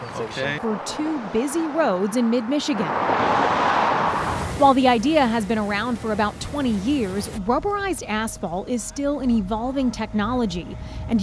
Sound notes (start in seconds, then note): 3.1 vehicles whirring